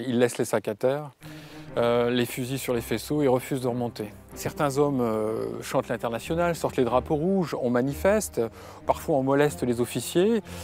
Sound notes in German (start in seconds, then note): none